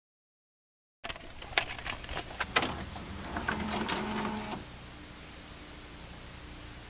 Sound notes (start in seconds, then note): 1.1 sound of a VHS